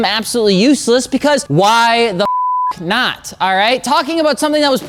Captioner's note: beep